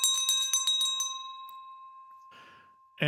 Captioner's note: bell ringing